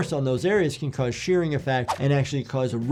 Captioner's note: audio whooshes